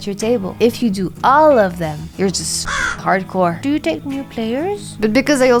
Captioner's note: caw